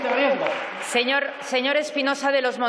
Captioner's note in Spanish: Aplausos